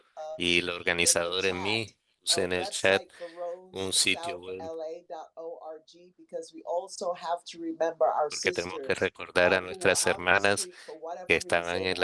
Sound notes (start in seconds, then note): 5.0 hablando inglés